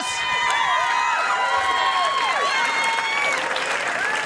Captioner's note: cheering and applause